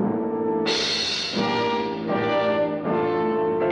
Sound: none

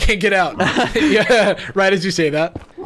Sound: everyone laughs

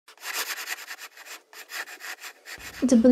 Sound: the sound of a pencil drawing on paper

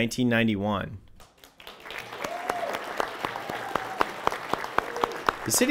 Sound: audience applauding

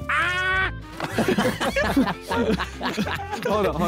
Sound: all laughing

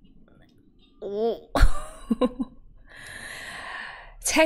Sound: laughs

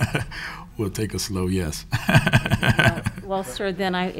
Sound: laughs

